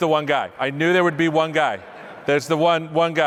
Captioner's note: laughter